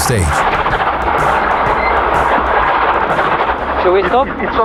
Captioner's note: car rattling